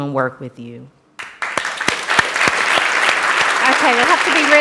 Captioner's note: applause